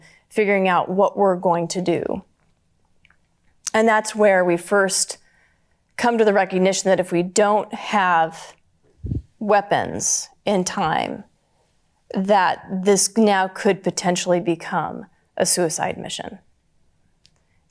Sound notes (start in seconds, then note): none